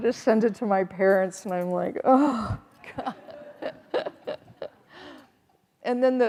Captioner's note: everyone chuckling